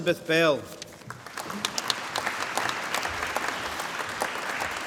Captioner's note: applause